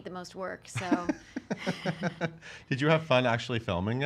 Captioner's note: laughing